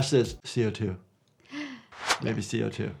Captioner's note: gasps